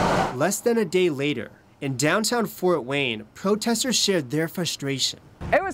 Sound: car drives

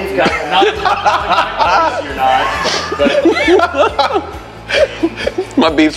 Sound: laughing

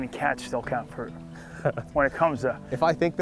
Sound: laughs

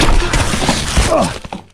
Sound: tire squeaking; leaves crunching; grunting

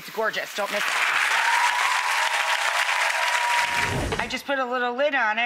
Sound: audience applauding; audience cheering

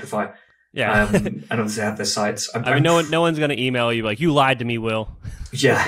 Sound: laughs

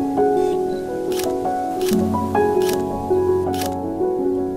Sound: camera shutter clicks

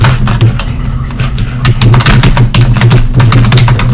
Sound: even more keyboard noises

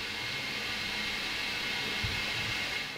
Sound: hissing noises

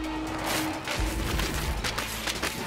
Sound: paper ripping sounds

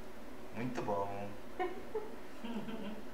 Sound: laughs

